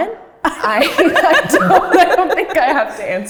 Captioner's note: laughs